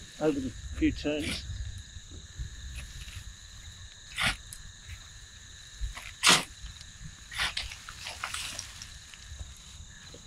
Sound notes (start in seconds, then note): 3.9 insects chirping; 4.2 tools scraping